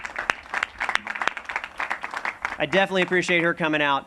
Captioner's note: applause